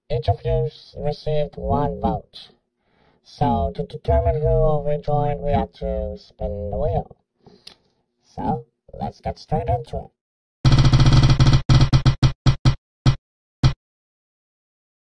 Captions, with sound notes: Each of you, received one vote. So to determine who will rejoin we have to spin the wheel. So, let's get straight into it. (Wheel spinning)